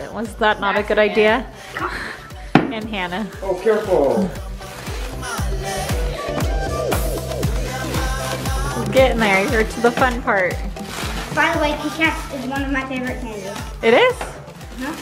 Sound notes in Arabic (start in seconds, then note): 2.6 رزمة تضرب على الطاولة; 5.7 موسيقى مبهجة